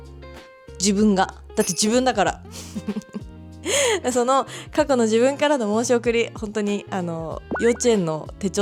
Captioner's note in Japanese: 笑い